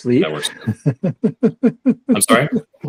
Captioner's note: laughs